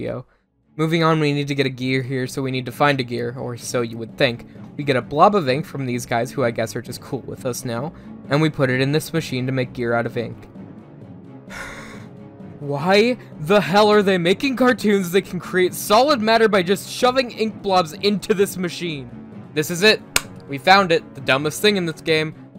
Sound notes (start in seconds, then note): 11.5 exasperated sigh; 20.1 clap